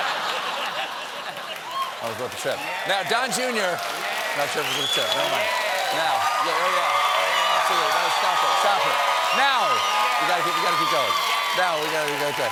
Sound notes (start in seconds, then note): 0.0 laughter; 1.5 applause; 8.7 cheers and applause